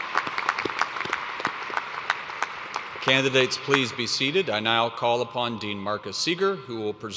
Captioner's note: applause